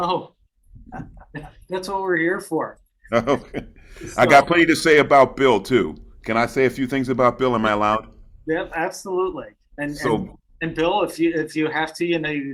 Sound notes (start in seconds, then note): 0.8 laughs; 3.0 laughs